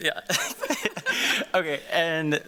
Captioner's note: both chuckling